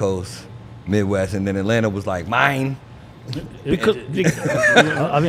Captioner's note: laughs